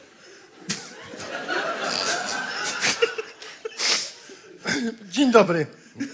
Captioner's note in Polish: śmiech